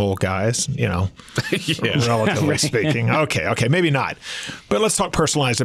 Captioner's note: laughs